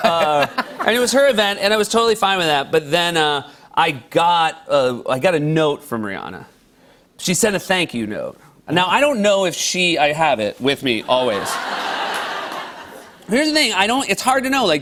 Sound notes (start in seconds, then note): 11.2 laughter